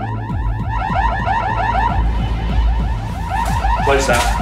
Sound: alarm blaring

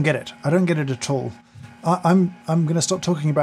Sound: coffee machine whirring

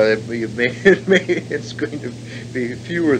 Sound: laughs

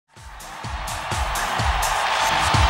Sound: audience cheers

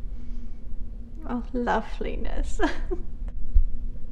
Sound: laughs

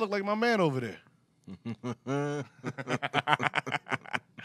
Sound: laughing

